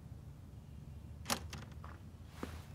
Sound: door opens

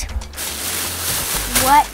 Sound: bag rustles

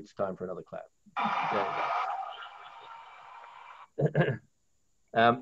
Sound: crowd applauds

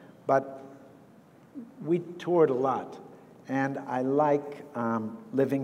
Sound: none

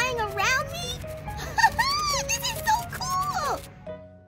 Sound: laughs

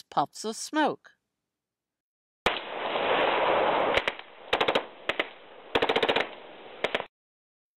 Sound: guns firing in background, and 3-shot bursts from AR-15

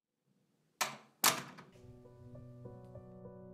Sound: door shuts; slow piano music playing

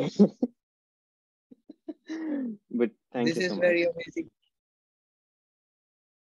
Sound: chuckles

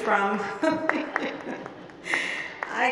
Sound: group applauding

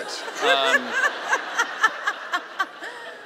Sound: laughing

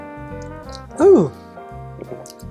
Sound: sigh

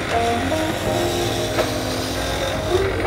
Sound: staple gun; drill

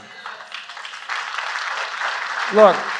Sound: applause

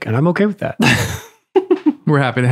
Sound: Father Innocent laughs

